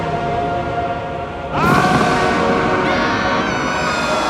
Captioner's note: yelling